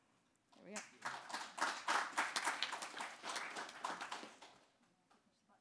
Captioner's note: audience applauding; speaks faintly